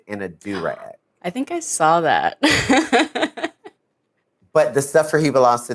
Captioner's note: chuckles